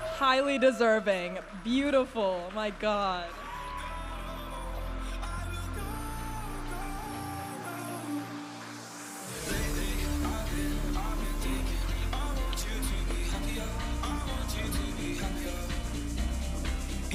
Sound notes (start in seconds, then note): 6.5 audience applauding and cheering